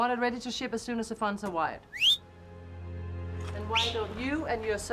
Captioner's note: whistles